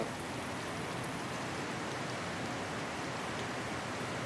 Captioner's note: fan whirring and water rushing